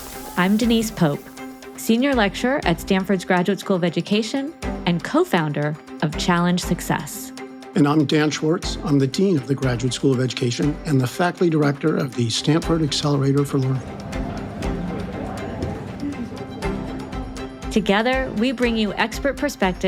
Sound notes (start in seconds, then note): 13.7 students chattering; 13.9 upbeat music